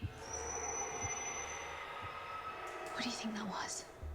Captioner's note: dinosaurs screeching